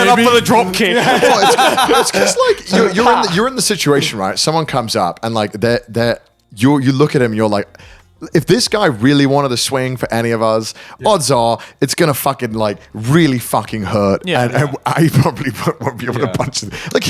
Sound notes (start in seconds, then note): 0.8 laughing